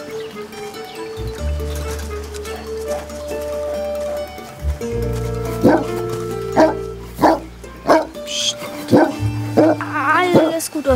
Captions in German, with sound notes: (Hund bellt.) Pscht! Aaalles gut, Oswald.